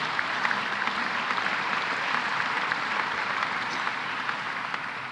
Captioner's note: applause